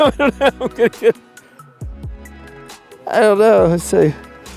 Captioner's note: Mike laughs